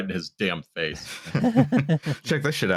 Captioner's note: laughter